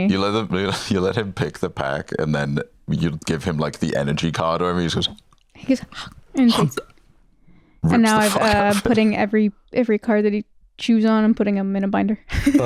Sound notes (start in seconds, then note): 5.0 chomp